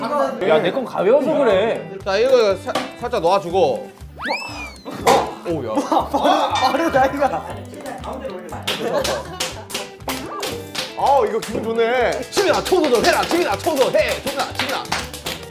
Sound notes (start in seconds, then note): 9.6 patting